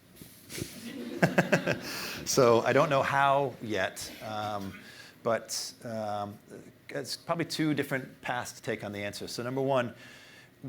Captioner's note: laughter